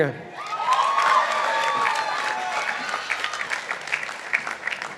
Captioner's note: participants applauding